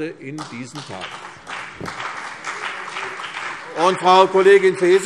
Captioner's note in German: Beifall CDU und BÜNDNIS 90/DIE GRÜNEN